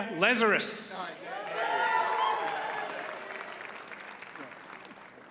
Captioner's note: audience cheers and applauds